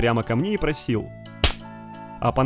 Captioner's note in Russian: Шлёп